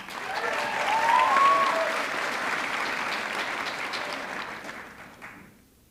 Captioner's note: audience cheering; audience clapping